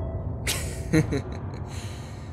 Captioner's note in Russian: хихикает